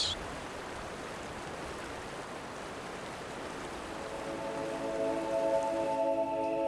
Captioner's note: rushing water